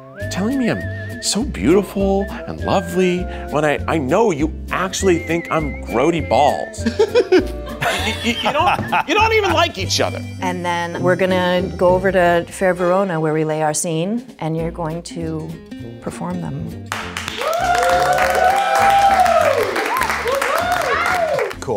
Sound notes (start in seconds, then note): 6.8 actors laughing; 16.9 audience clapping and cheering